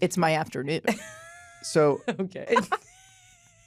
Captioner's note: laughs